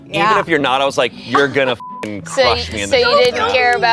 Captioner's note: beep